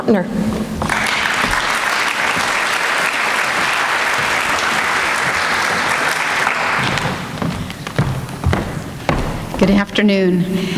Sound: applause

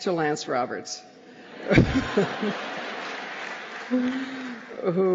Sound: laughter

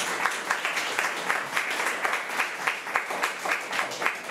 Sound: crowd clapping

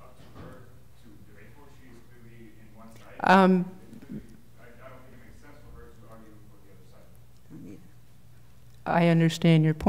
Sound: speaking off the mic

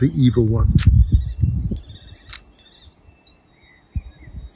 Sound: birds singing

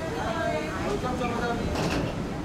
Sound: crowd chatter

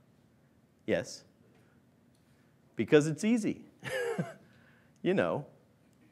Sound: laughs

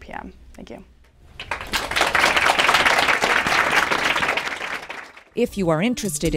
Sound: applause

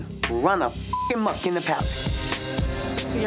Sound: beep

